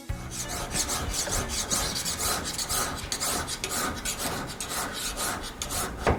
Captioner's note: knife sharpener scraping against knife